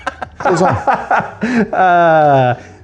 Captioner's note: laughing